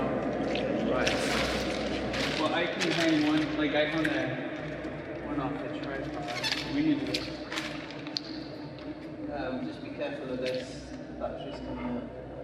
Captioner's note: logistical chatter